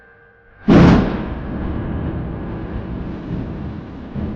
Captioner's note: thunder rumbles